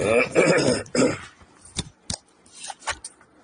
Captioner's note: clears throat; coughs